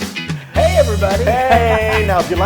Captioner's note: laugh